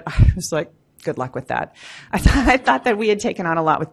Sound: laughs

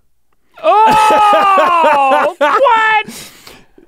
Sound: Rhett laughs

